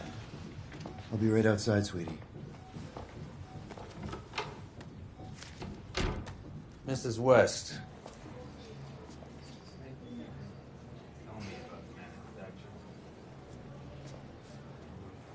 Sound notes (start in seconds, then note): 4.0 door opening; 5.6 door closing; 8.1 muffled